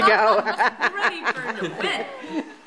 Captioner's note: laughing